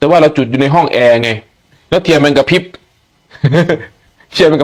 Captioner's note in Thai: เสียงหัวเราะ